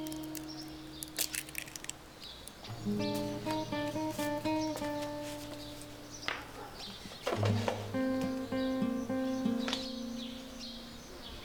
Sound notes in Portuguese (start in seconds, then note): 0.0 Estalos; 2.8 Chilreio de pássaros